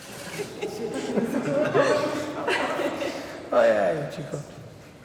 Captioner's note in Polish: śmiech